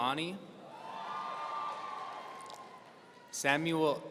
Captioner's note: audience cheering